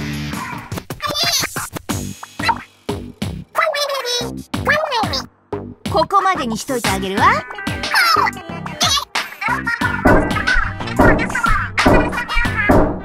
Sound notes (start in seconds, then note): 1.0 speaking Inklish